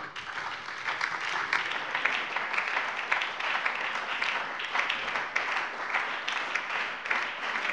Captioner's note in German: Beifall bei der SPD, der LINKEN und der FDP